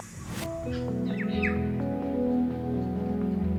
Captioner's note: bird chirps; serene music